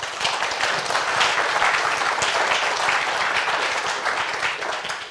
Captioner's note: applause